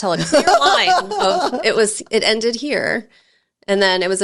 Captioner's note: laughing